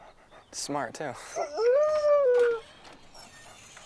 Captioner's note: Buck howls